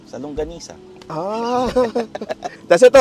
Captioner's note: laughs